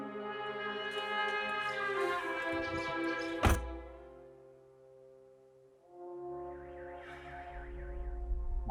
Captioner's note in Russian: хлопают дверью машины